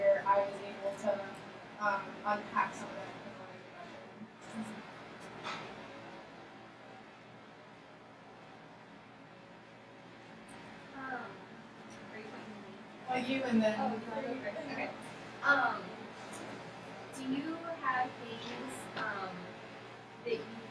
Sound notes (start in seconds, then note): 12.1 speaking off microphone